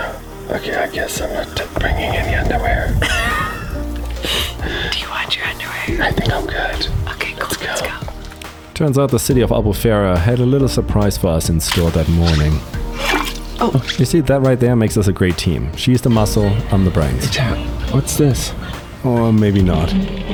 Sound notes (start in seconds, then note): 2.6 laughs